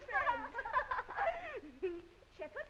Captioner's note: girls giggling